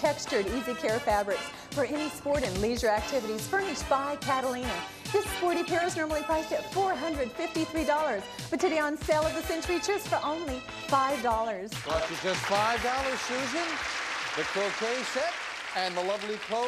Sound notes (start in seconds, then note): 11.8 audience applauding